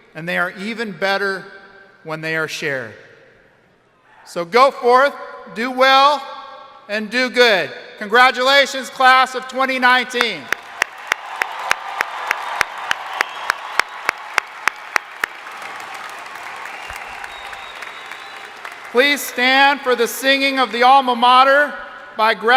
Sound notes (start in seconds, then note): 10.4 crowd applauding; 10.5 crowd cheering